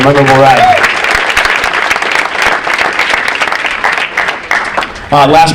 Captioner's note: audience applauding